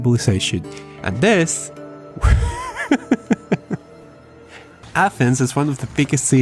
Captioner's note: laught